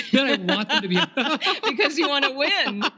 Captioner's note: laughing